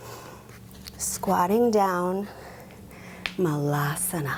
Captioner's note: speaks in foreign language